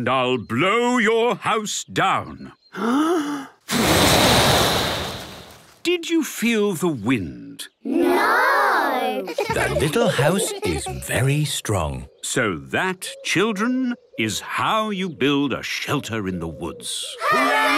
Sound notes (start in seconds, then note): 2.8 inhaling deeply; 3.6 blowing; 9.2 laughter